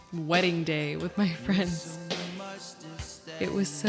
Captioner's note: laughs